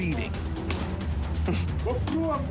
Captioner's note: cameraman chuckles